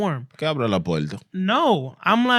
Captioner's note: speaking Spanish